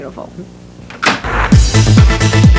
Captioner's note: lid slamming; electronica music playing